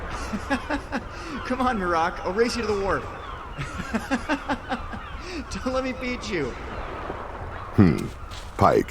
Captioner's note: laughing